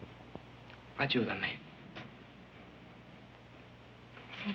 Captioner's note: speaking in foreign language